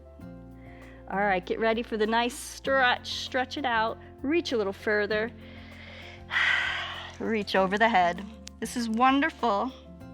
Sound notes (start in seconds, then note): 5.4 inhales and exhales